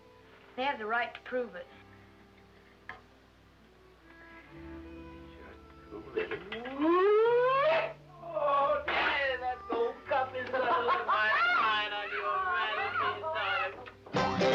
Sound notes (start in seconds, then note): 6.9 grandpa hooting